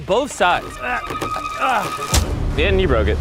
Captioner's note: grunting